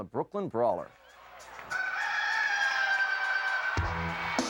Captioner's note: gentle music; rooster crowing; upbeat music